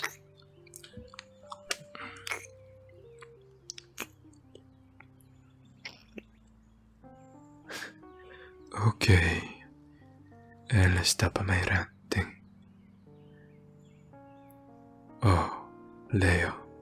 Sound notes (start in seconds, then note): 7.7 chuckles